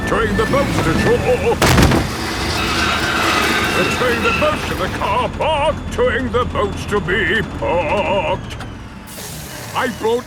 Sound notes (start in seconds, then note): 1.5 thud